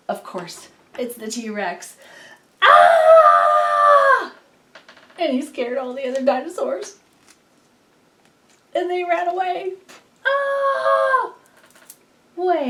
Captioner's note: AAAhHHH